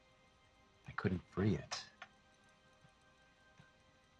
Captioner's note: none